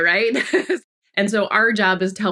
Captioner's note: laughs